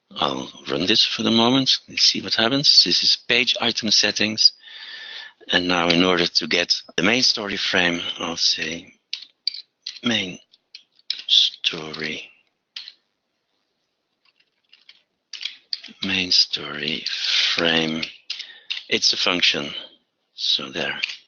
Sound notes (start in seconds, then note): 14.3 typing